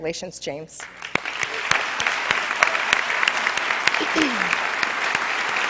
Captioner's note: applause